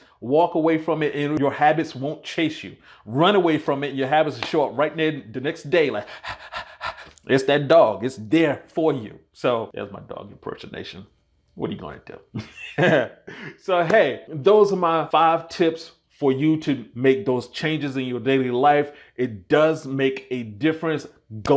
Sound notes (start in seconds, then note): 6.0 panting; 12.3 laugh